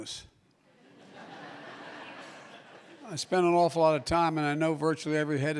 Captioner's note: laughter